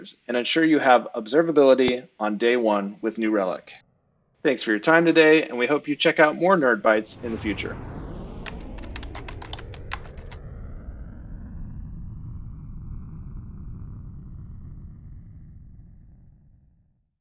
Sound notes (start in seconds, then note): 8.3 whooshing sound